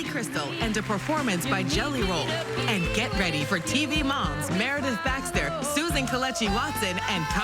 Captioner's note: applause